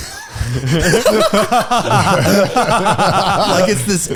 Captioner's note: all laughing